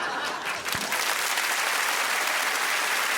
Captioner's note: audience laughing; applause